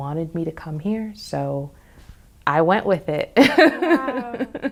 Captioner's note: chuckles